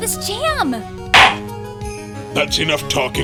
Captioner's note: whispering; gavel slams!